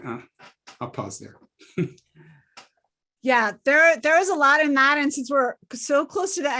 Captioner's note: laugh